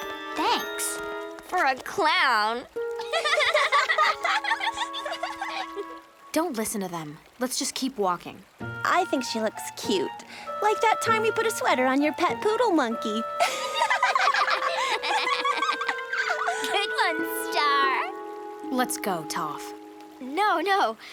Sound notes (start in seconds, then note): 3.0 laughing; 13.4 laughing